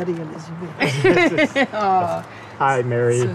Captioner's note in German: lacht